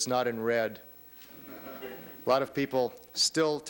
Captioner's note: laughter